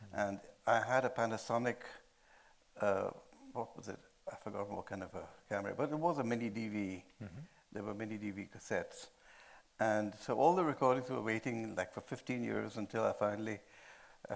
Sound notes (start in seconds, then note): none